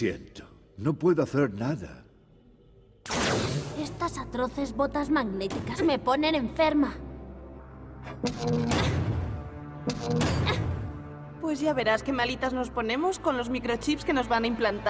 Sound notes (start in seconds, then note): 9.8 thunks